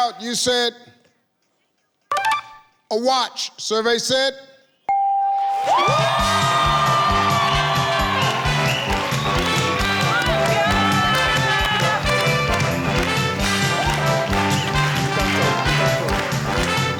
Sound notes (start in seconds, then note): 4.9 computer beeps; 5.8 audience cheering; 5.8 upbeat music